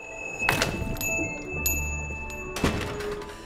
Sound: bell rings

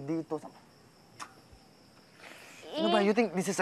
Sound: clicks tongue

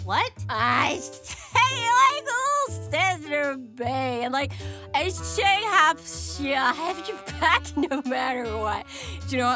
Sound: Tifa slurs her words

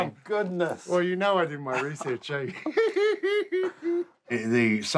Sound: laughs

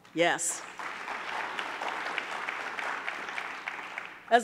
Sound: audience clapping

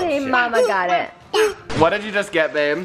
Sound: chicken toy squawking

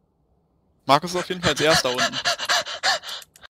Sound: breathcatching laughter

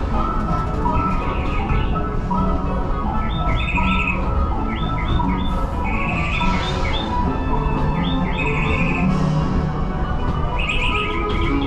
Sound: birds chirping

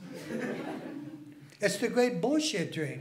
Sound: laughing

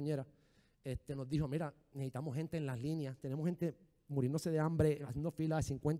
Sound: speaking in foreign language

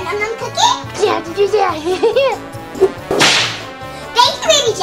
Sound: babbles

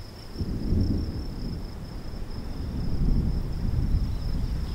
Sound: thunder rumbles

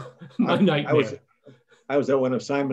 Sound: laughs

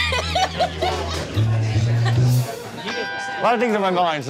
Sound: customer laughing

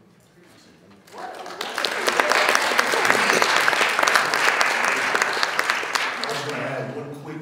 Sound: audience applauding

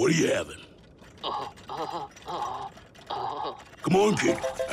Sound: shuddering

